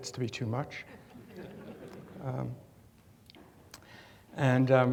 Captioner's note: audience chuckles